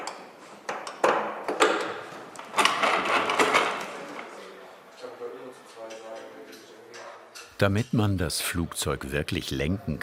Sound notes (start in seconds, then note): 2.6 clattering, then crashing